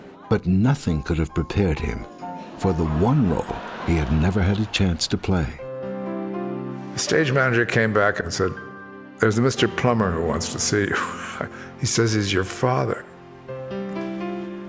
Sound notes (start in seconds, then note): 11.5 chuckles